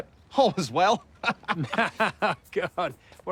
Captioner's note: laughing